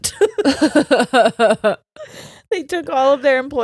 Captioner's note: laughing